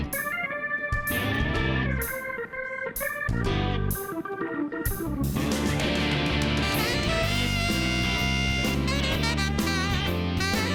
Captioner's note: cheers and applause